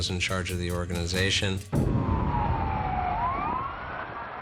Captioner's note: sirens wailing